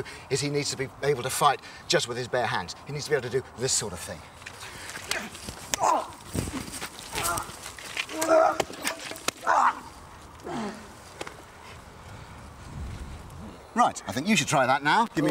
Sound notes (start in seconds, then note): 5.8 man grunts; 8.2 man grunts